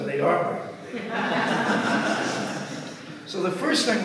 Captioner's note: audience laughs